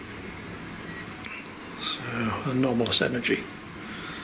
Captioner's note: computer beeps